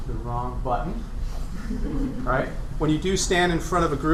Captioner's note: laughter